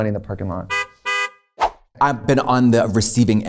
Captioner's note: car honking